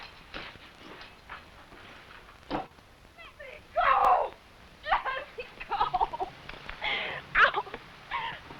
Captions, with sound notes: Let me go! (cries) Let me go! Ow!